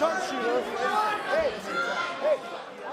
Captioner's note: crowd cheering